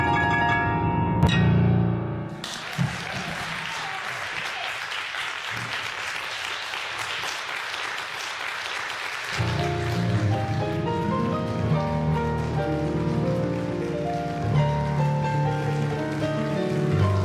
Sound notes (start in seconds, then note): 2.8 audience applauds; 9.3 classical piano music